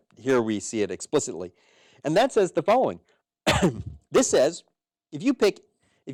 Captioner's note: cough